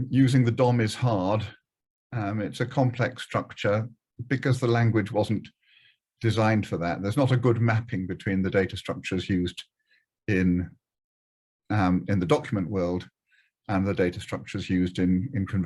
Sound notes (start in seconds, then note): none